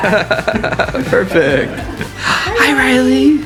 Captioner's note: laughs